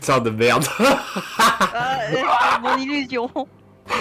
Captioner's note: laugh